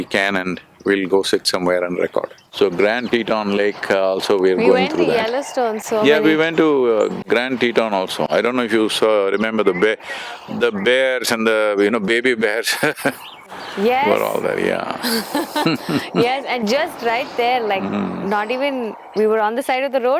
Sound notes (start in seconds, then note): 12.6 laughs; 15.0 laughter